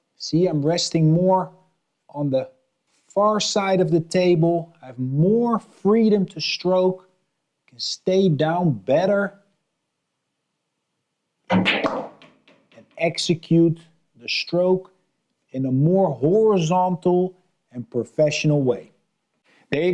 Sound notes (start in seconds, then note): 11.5 balls clacking